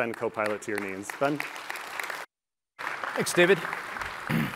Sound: applause

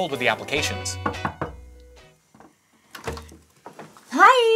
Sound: someone knocks and opens the door

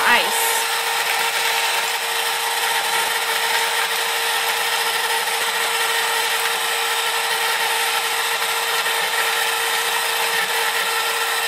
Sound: ice cream maker running

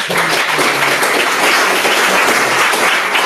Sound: applause

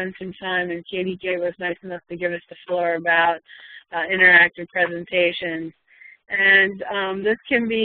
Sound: slur

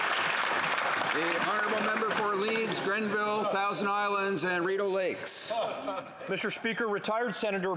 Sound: applause

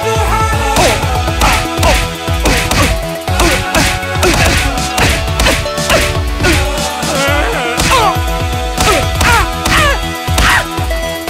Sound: getting beaten up noises

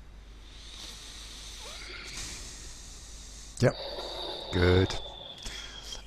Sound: sighs

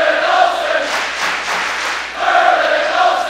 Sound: clapping

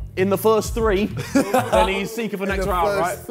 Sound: laughs

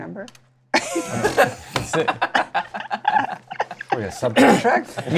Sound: laughter

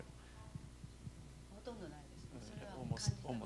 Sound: non-english speech

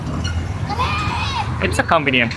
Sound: kids yelling

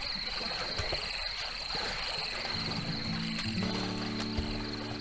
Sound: feet Splashing in water

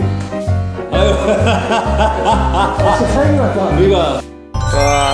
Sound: laughter burst out soon as they saw this guest

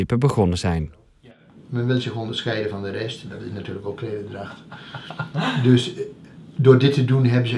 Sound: laughing

